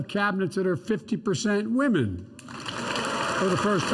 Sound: applause

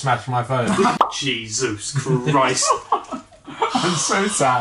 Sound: laughing

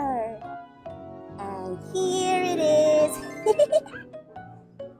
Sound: laughs

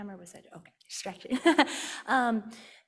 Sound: laughing

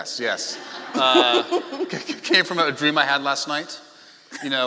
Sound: laughing

